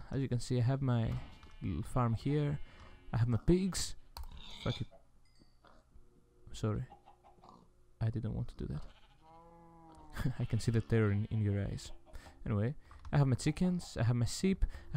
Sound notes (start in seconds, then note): 9.9 laughing